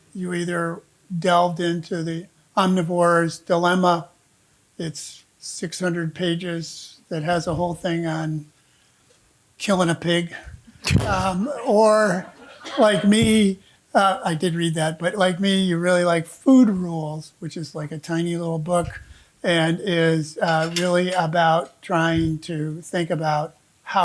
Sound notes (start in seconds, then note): 11.5 audience laughing